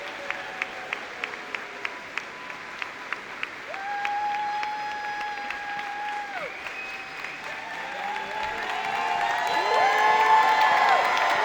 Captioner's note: cheers and applause